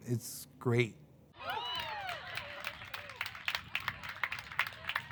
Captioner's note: applause